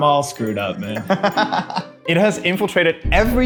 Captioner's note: laughs